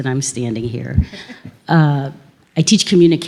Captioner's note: few audience members laugh